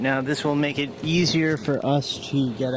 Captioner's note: none